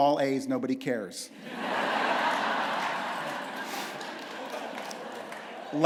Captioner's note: laughter